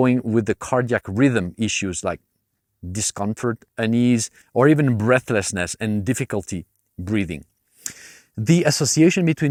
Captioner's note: difficulty breathing